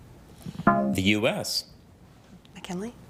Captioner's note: bell dongs